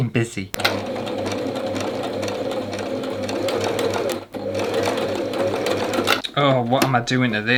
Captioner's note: sewing Machine Sounds